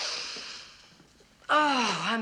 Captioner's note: sighing